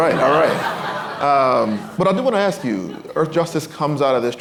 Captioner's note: laughter